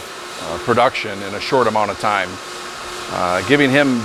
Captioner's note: machine noise